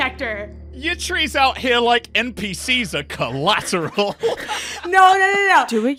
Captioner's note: laughs